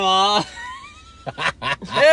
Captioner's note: laughs